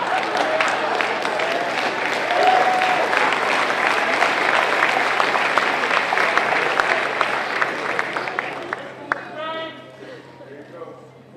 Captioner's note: applause